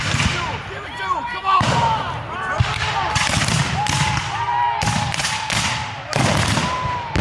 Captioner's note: guns fire